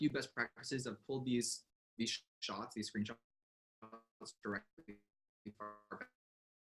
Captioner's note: audio distorts